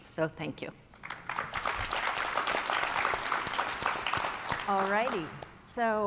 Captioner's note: all applauding